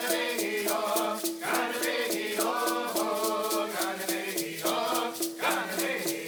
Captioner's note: dancers' chanting continues